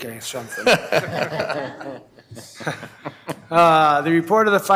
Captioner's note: board laughing